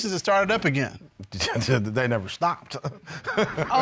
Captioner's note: scoffs, laughs